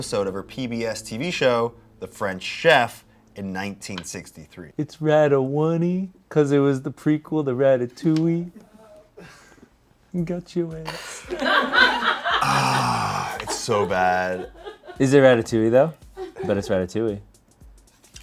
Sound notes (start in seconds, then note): 11.5 crew laughs; 12.4 groans